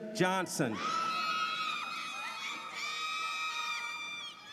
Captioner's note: audience cheers